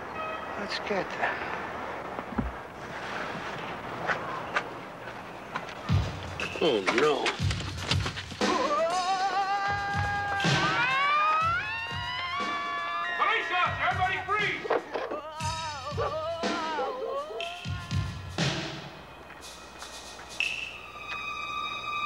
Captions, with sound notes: Let's get them. (tense music) - Oh no! (Leon and Molly screaming) Police officer, everybody freeze! (Leon screaming) (tense music continues)